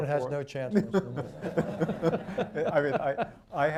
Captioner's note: laughter